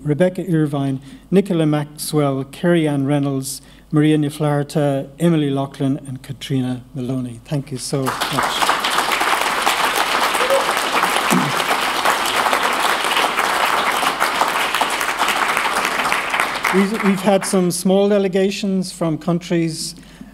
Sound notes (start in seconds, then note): 8.0 applause